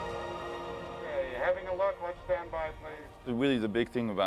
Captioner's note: man on bullhom